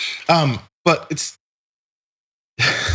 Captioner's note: laugh